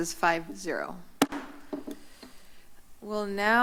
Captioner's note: gavel tap